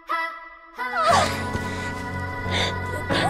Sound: Heiya sighs in relief

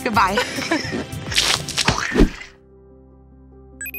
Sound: splash

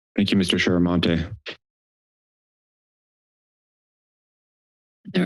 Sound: silence

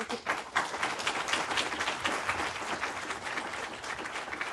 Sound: audience applauding

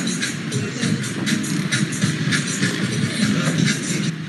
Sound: cars driving

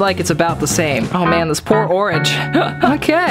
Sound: laughs

